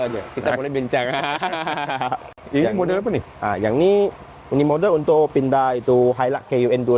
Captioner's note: laughs